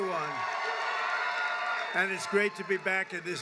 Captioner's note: applause